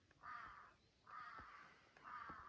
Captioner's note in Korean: 까악